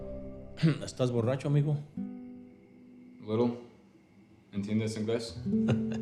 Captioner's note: speaking in foreign language; acoustic guitar music